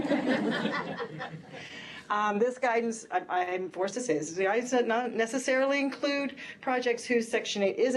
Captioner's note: laughter